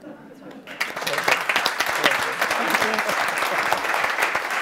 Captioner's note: audience applauds